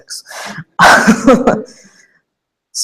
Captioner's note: laughter